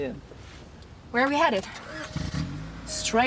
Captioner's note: car starts